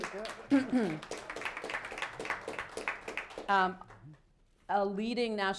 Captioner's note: applause